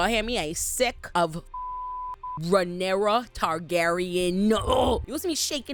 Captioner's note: beep